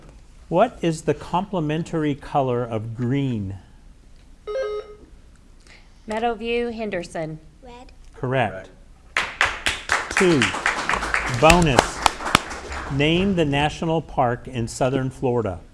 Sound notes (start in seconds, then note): 4.4 buzzer ringing; 9.1 audience applauding